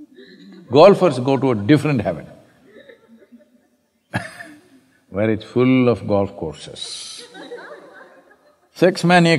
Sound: laughter

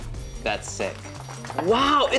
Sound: clapping

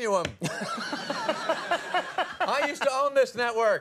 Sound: Conan and audience laugh

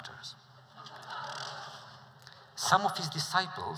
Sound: laughter

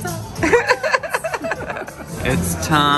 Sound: laughs

